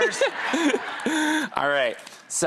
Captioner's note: audience laughs